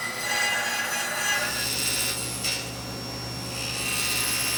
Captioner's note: tool squealing